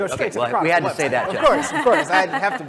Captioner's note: laugh